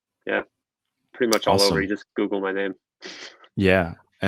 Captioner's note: chuckles